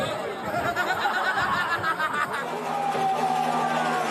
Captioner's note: protestors laughing; protestors yelling